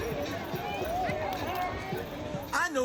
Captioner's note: people chattering; upbeat music